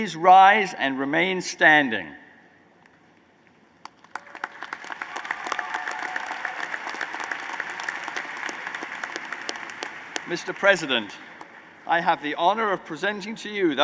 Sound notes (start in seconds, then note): 3.4 applause